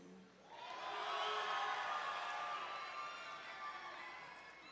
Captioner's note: audience cheering